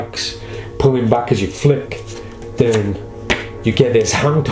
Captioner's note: cards clack